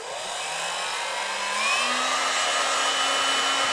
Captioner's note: Föhn-like blowing